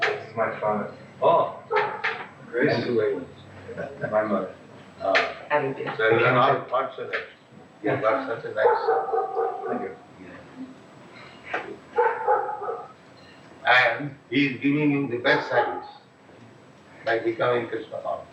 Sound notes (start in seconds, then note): 3.5 chuckles